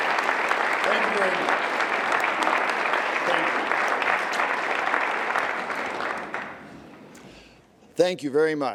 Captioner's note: applause CONTINUES